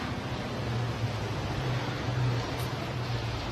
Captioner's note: car noise